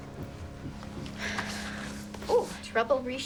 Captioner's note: Cassie sighs